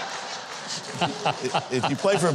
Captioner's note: audience laughs; host laughs